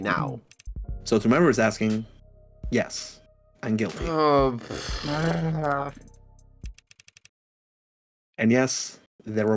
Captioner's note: everyone groaning